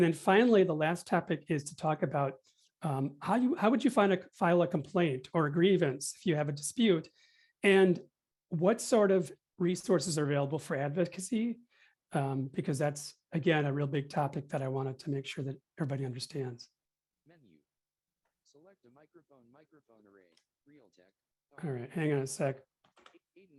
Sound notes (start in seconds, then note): 18.5 background voice from computer